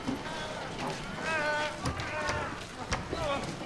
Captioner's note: moaning and muttering